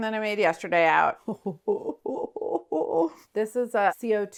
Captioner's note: laughs